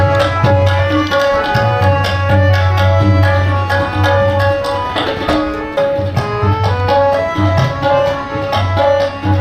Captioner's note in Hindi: तालियाँ